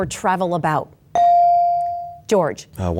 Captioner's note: bell dings